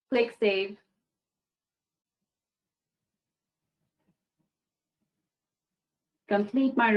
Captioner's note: 5 seconds pause